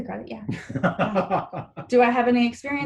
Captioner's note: laughs